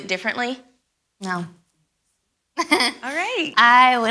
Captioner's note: chuckles